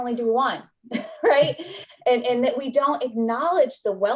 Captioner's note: laughter